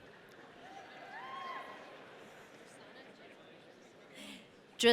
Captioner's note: audience cheering